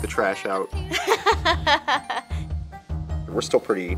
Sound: laughter

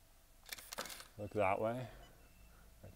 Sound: camera shutter clicks

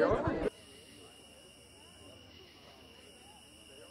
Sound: crickets and the faint sound of a party inside

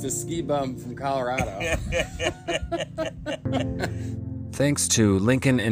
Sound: laugh

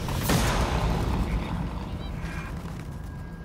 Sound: gun fires

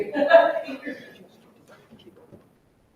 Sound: person laughing loudly

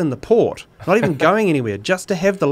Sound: laughs

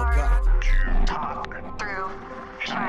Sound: none

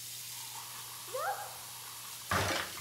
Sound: Makayla exclaims

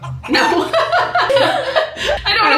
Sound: clucking; laughs

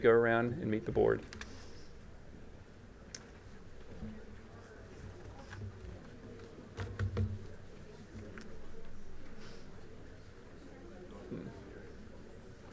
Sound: crowd chatter

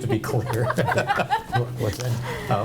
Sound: board members laugh

